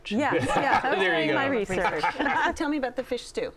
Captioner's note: laughter